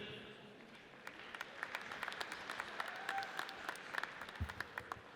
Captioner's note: audience applauds